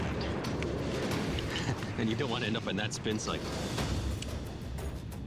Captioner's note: chuckles